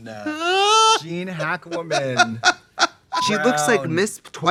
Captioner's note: Trixie howling